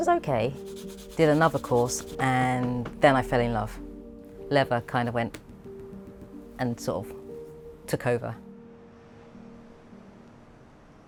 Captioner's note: taps